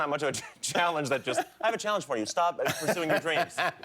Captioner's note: laughter